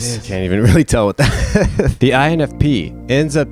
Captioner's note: laughs